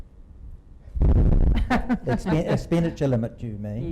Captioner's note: laughing